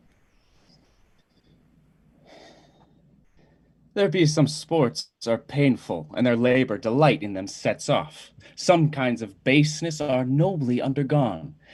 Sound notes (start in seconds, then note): 2.2 sigh